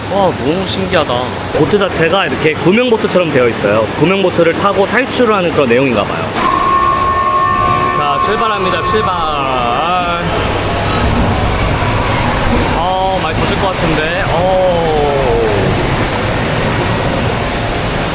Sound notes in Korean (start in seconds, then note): 6.3 요란한 소리와 함께 출발하는 보트